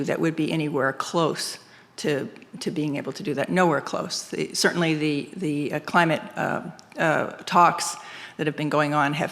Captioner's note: none